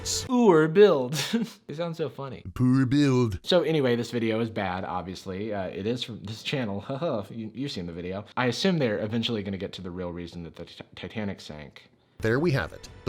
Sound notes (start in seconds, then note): 2.5 laughs; 2.9 voiceover